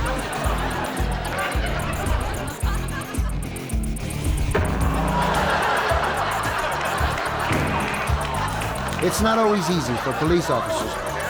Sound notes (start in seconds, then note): 0.1 rock music; 4.6 audience laughs